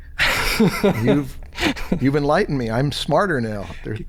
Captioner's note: chuckles